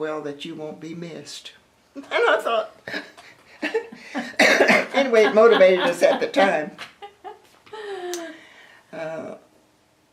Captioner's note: laughter